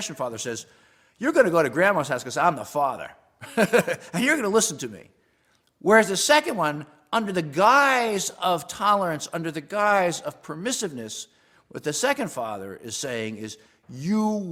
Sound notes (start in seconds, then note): 3.4 laugh